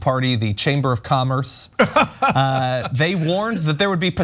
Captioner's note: laugh